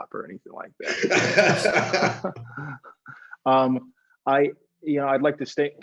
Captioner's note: laughter